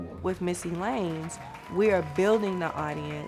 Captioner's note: audience applauds